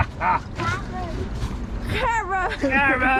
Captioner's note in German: brüllt und lacht; murmelt; spricht in fremder Sprache